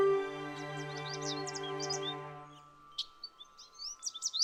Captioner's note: birds chirping